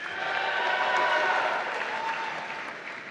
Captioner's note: applause